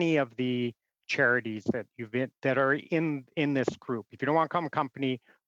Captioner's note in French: voix de l'interprète